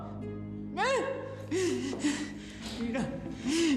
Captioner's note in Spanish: sollozos